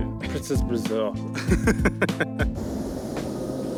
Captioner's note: laughing